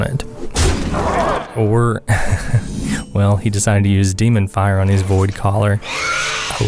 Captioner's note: haha